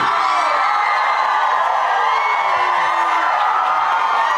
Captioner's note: crowd cheering